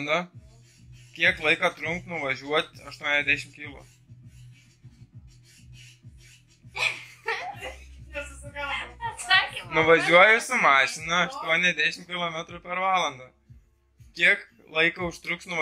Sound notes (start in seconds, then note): 6.7 sis laughs in background; 6.7 laughs